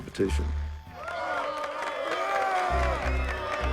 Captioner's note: cheering